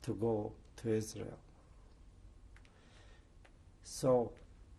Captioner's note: pauses for 3 seconds